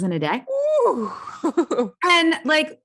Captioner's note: laughs